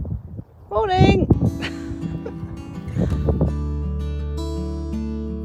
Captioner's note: laughs